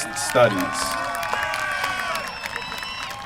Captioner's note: applause